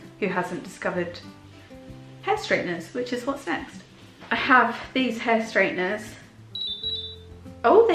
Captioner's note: beeping sound